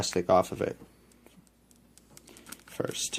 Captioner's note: really long pause